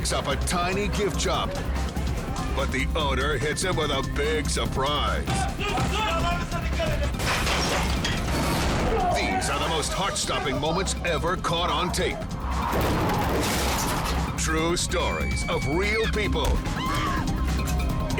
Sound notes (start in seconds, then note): 8.0 men thuds; 12.6 car crashes; 16.7 woman screams